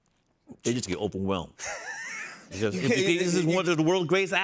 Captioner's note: laughs